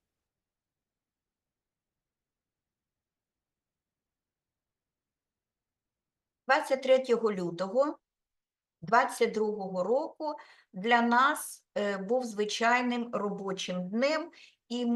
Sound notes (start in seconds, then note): 6.6 speaking Ukrainian